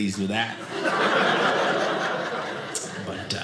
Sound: audience laughing

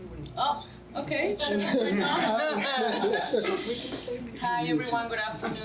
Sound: laughing

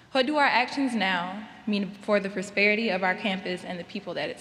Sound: none

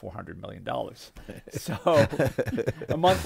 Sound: laughing

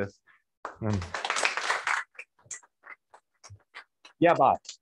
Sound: applause

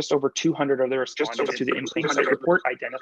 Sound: chatter

